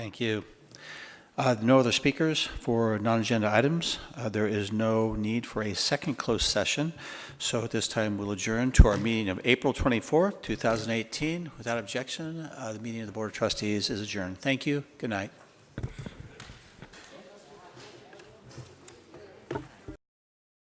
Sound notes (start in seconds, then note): 17.2 shuffling